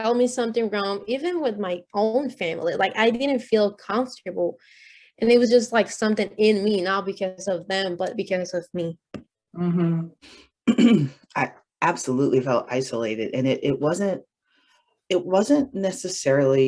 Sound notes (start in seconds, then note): 10.6 clears throat